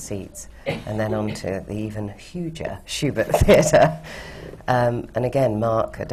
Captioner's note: laughs